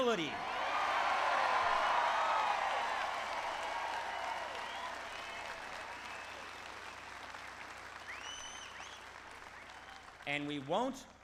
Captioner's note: applause